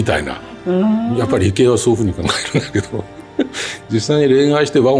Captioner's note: laughs